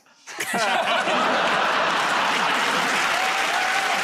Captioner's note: laughter; cheers and applause